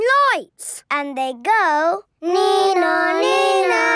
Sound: imitating siren

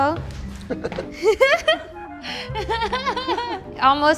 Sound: laughter

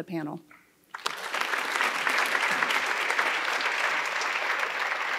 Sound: audience applauding

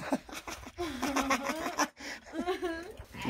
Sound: laughter

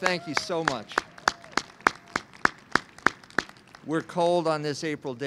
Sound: clapping

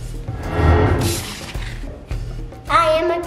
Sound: paper rustling

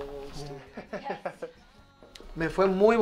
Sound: laugh

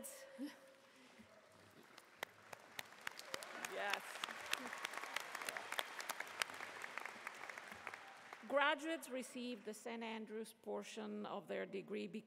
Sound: applause

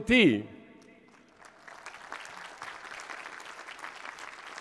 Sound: applause

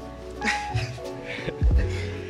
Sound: both chuckle

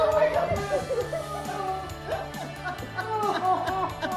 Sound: group laughing

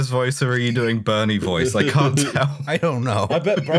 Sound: laughter

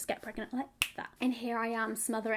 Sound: fingers clicking

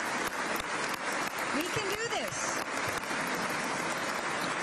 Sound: applause

